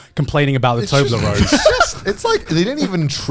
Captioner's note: laughs